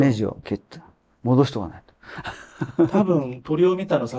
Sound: laughs

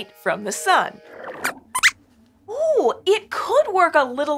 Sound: squeaks squeaks

